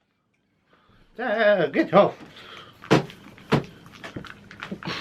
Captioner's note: party popper bangs